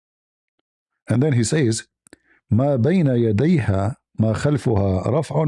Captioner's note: reads in Arabic